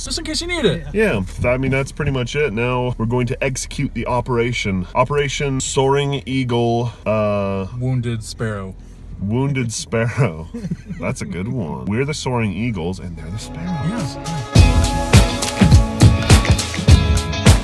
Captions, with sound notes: - Just in case you need it. - Yeah but I mean that's pretty much it. Now, we're going to execute the operation. Operation Soaring Eagle. - Wounded Sparrow. - Wounded Sparrow (chuckles). That's a good one. We're the soaring eagles and they're the sparrows. - Yes, yes. (upbeat music)